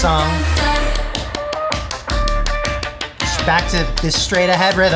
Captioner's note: clapping to beat